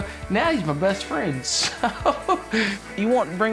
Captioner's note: chuckling